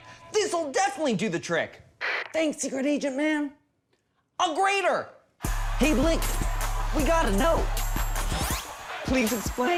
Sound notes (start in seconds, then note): 3.4 whispering